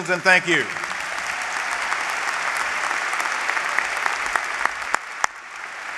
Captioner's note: applause